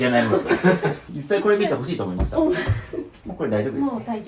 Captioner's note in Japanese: 笑い